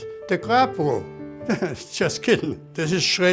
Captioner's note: laughs